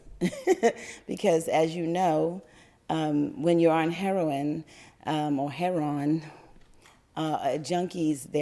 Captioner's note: laughter